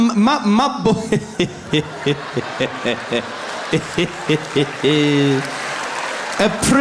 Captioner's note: Zuma laughing